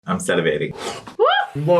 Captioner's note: breathes in